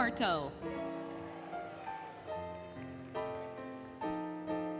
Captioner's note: applause, Cheering, Music